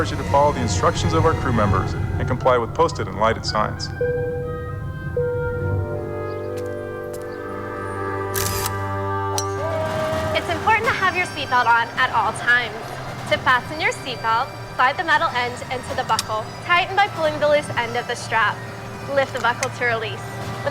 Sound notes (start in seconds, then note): 4.8 tone chiming; 8.3 camera clicking; 9.7 golf club thwacking